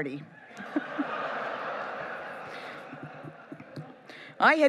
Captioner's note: laughing